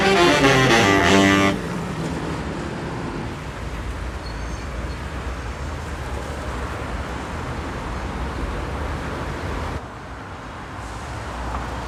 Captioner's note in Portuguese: Ruídos urbanos